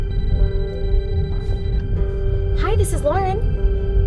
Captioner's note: phone ringing